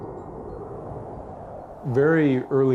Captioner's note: air whooshing